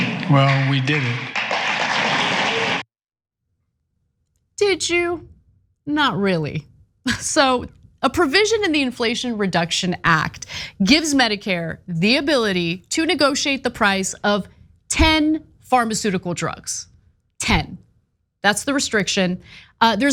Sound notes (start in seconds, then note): 0.0 applause